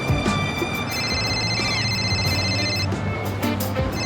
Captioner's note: phone ringing